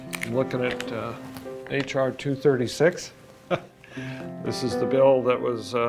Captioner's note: laughs